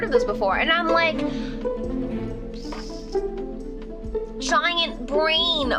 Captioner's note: mimics explosion